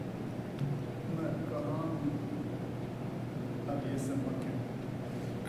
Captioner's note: non-english speech